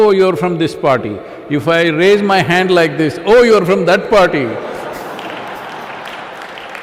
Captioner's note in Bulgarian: аплодисменти